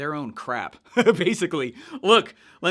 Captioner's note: laughs